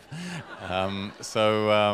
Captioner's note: laughter